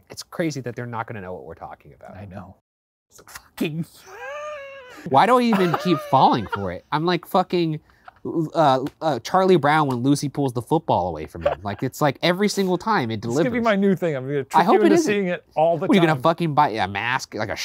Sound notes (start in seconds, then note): 4.0 laughing